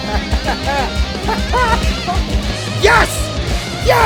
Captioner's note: hysterical laughing